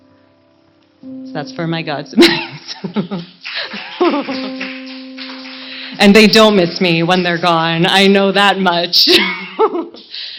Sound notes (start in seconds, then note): 1.8 laughs; 3.5 laughter